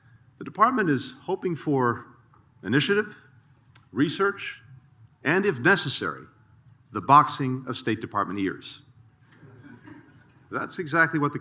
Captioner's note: laughter